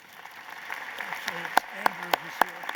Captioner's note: applause